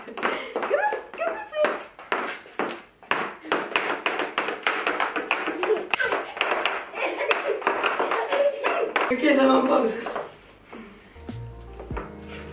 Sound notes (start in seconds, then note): 3.6 clacking; 3.6 laughing